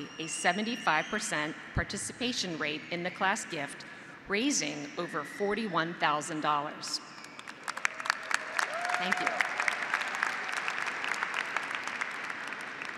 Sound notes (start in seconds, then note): 7.2 graduates applauding; 7.6 graduates cheering